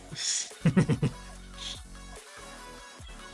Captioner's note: laughs